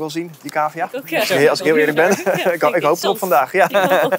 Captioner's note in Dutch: lacht